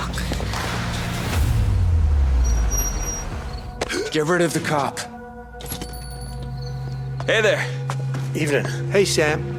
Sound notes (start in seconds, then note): 5.6 door bell jingling